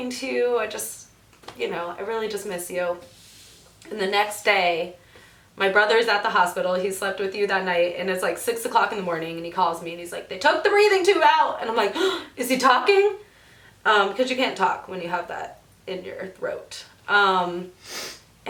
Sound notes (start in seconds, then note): 12.2 gasps